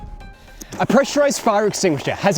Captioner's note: extinguisher hissing